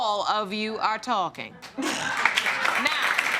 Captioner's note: audience applauding